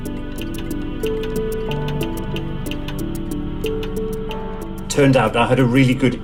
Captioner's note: clock ticking intensifies